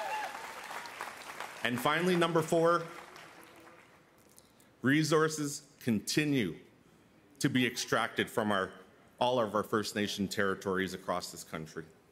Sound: cheers and Applause

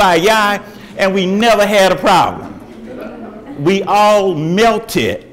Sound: audience laughs

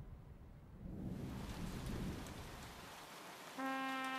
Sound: heavy rain falling

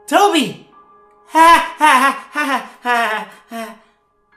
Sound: laughing

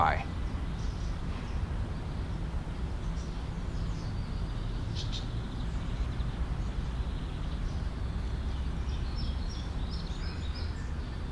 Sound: birds Chirping

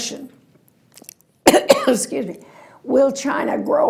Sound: coughing

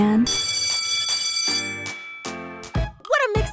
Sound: bell ringing

